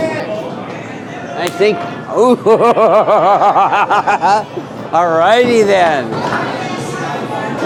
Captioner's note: laughs